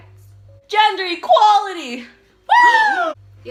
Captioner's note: mix of cheers and gasps